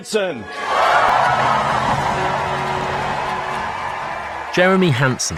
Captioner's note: audience cheering